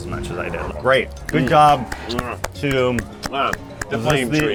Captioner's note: clapping